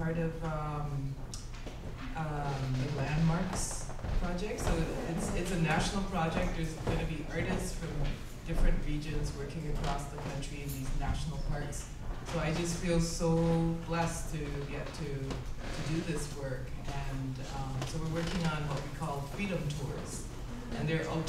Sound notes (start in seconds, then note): none